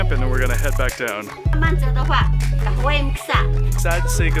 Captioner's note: speaking Mandarin and Truku